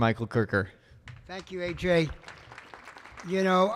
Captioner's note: audience clapping